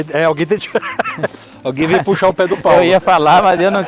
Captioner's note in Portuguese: risos